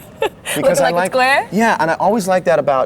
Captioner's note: laughs